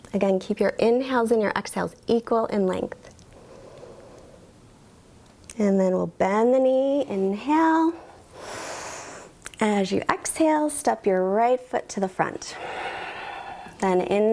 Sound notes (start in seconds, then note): 3.4 inhales; 8.0 inhales; 12.5 exhales